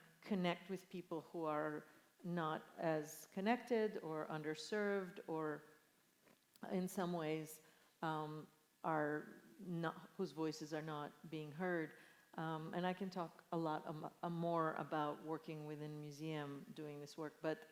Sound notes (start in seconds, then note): none